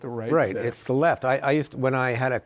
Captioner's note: chuckles